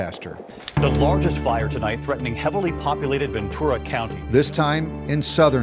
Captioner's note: TV broadcast